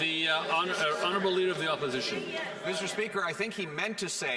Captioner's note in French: voix de l'interprète